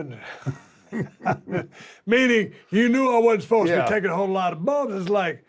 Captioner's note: laugh